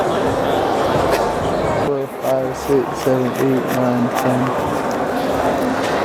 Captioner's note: counting Money